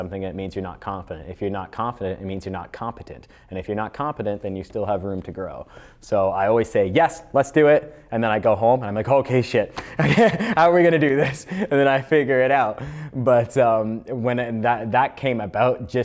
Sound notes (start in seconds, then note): 9.8 laughs